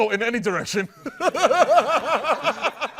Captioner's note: laughter